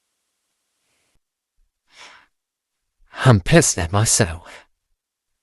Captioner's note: sniffling/seething